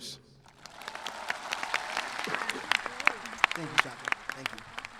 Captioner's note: audience clapping